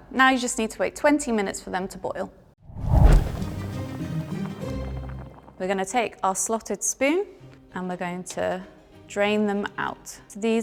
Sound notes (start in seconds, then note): 2.6 whooshing